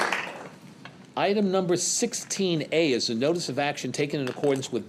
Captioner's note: applause